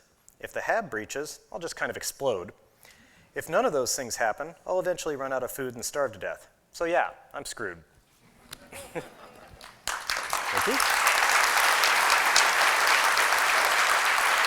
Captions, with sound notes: If the Hab breaches, I'll just kind of explode. If none of those things happen, I'll eventually run out of food and starve to death. So, yeah, I'm screwed." [laughter] Thank you. [applause]